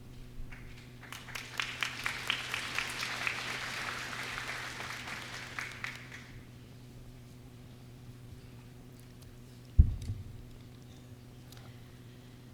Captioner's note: applause